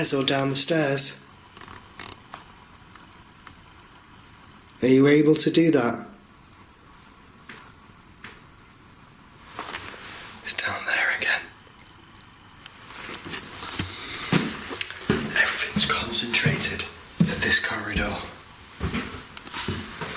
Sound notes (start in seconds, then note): 7.6 tapping sounds